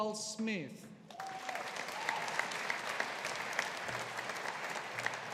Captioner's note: audience applauding